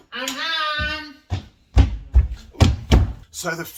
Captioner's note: feet stomping